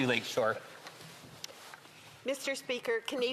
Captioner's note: speaking French